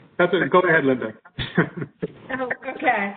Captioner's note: laughs